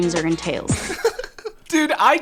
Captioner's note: laughing